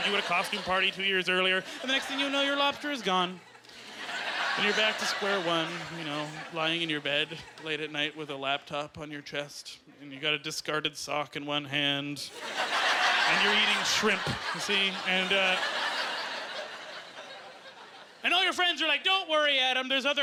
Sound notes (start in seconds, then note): 16.7 laughing